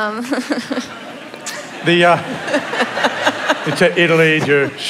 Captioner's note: laughter